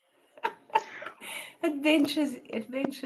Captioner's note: laughs